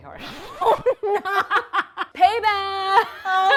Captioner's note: both laughing